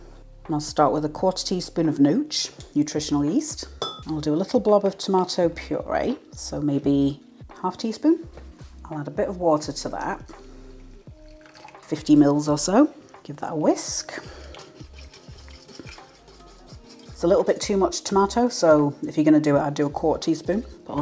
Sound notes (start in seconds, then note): 13.9 whisk whisk whisk